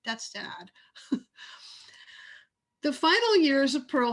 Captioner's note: laughs